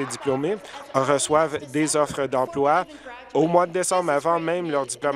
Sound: applause

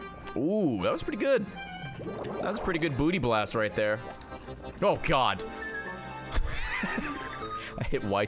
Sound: laughs

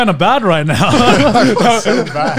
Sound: laughing

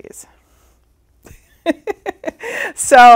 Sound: laughs

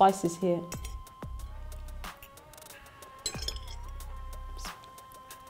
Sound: silverware scraping

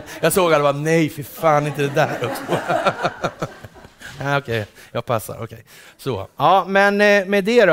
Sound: laughter

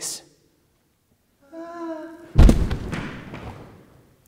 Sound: swoon - Thud

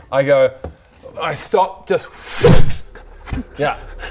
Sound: pffff

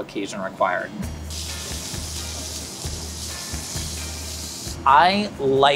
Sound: steak sizzles

